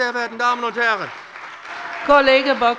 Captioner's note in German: Beifall bei dem BÜNDNIS 90/DIE GRÜNEN und der CDU